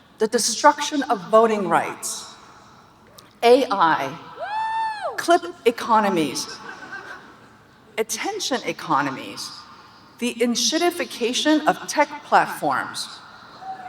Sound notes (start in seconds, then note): 4.4 audience cheering